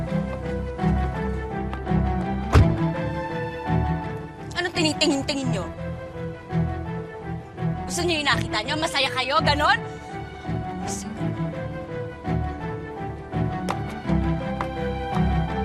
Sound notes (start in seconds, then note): 2.4 car door closes